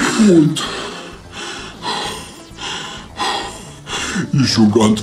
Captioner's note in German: lach; Nach Luft schnapp; hechel